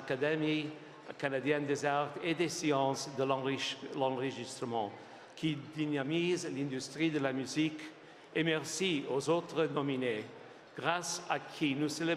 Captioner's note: speaking French